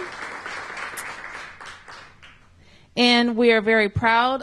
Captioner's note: applause